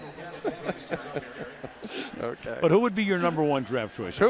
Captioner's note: laughs